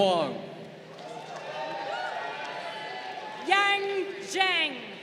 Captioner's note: crowd cheering